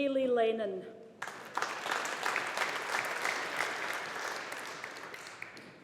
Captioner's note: audience applauding